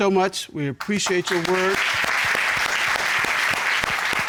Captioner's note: audience applauds